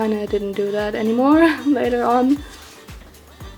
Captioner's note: laughs